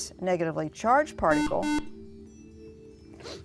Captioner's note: buzzer